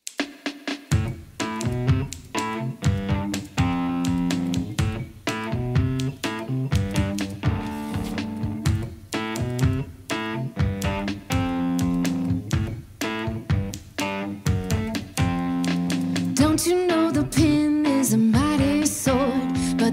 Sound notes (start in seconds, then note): 0.1 keyboard funk music; 6.3 typewriter clacking; 6.3 typewriter shuffles